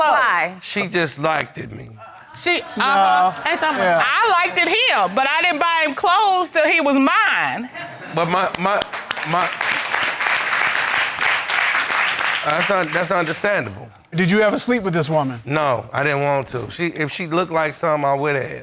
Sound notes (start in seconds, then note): 1.9 all groaning; 8.1 audience applauding